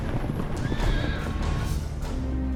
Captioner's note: horse whinnies